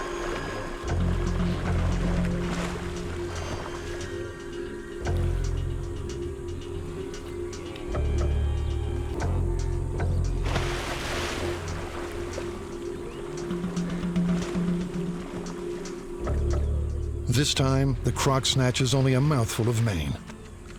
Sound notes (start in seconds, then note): 0.0 ominous music; 11.4 crocodile snaps